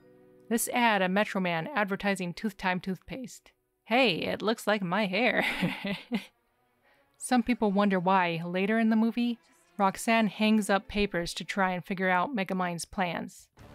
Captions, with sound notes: This ad of Metro Man advertising Tooth Time toothpaste. "Hey, it looks like my hair!" (Laughing) Some people wonder why, later in the movie, Roxanne hangs up papers to try and figure out Megamind's plans.